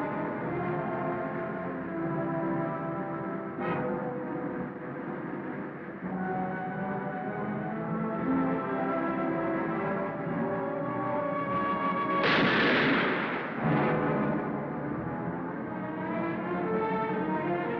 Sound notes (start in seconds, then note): 12.2 gun bangs; 14.0 tense music